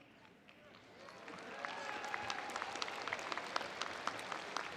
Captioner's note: audience applauds